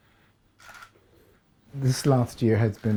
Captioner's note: camera clicks